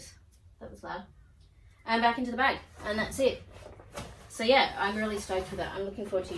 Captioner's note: bag rustles